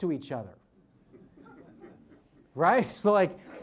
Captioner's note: audience laughs